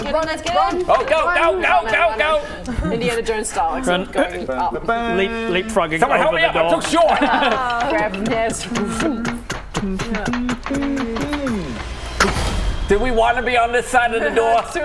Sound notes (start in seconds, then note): 8.9 tuk tuk tuk tuk tuk tuk tuk; 12.1 tuk